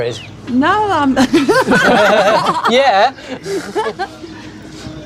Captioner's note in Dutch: Lacht